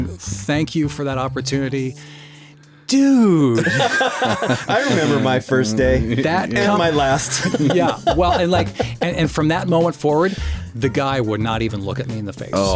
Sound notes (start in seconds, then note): 3.6 laughing